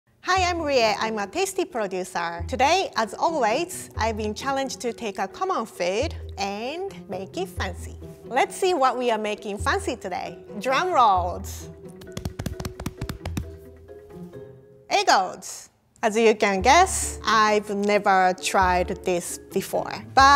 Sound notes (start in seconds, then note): 11.9 pounding chest